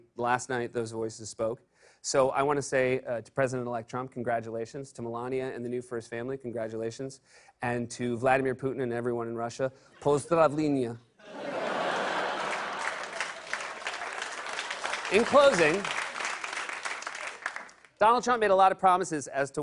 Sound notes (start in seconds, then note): 9.8 speaking Russian; 11.8 applause